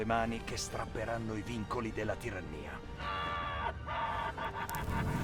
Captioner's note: crazy tyrannical laughter